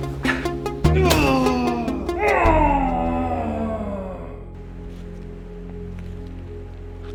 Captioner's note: Mitch grunts; musician groans; Mitch grunts; object thuds